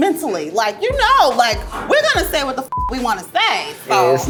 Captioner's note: beep